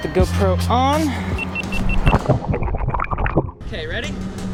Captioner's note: camera beeping; water gurgling